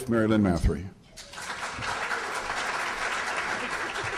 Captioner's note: applause